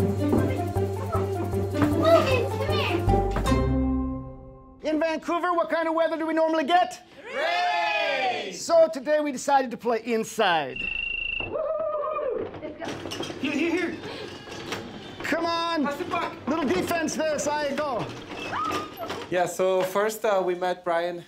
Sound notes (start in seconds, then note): 13.0 electronic whistle blowing, cheering